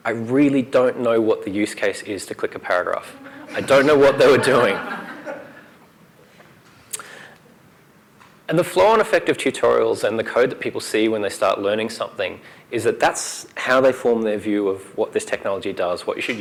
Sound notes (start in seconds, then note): 3.1 laughter